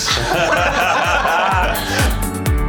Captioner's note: laughing